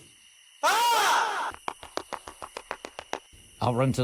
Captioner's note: screams